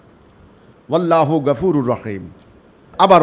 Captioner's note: Arabic